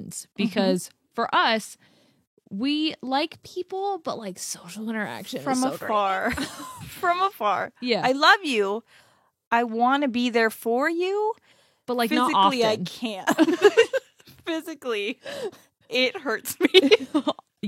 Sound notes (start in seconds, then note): 13.8 laughs